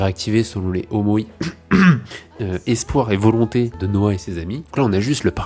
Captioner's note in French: tousse